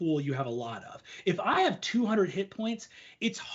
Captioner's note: none